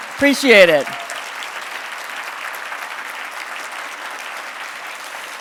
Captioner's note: audience clapping